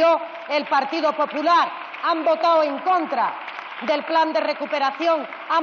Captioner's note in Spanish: Aplausos